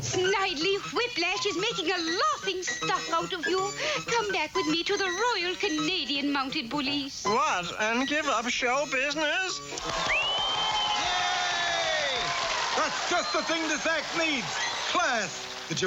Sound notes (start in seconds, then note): 9.8 cheering